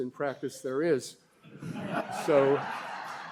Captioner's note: laughter